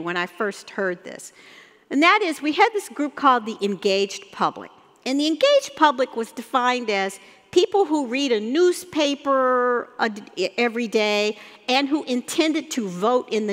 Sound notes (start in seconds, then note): none